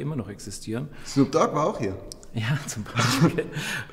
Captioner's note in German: beide lachen